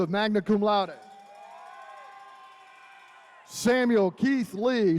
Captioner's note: attendees cheering